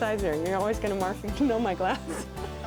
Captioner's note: laughing